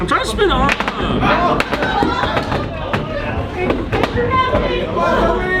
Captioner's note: robots thudding